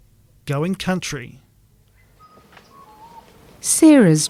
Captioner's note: bird song